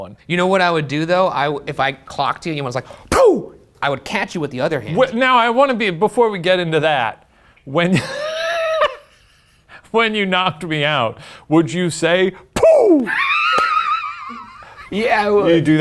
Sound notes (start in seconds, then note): 8.0 laughs; 12.9 laughs